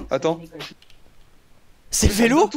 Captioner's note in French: Bruit qui cesse